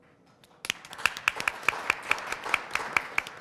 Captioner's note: applause